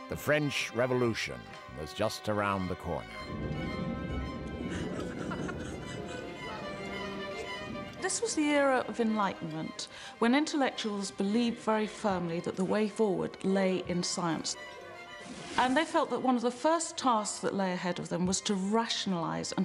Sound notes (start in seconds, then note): 4.5 thunder rumbles